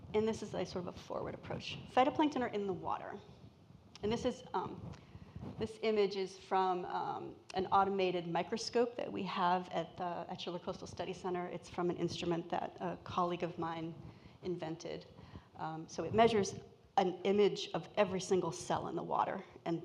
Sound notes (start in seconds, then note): none